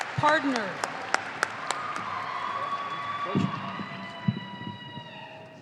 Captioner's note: audience applauding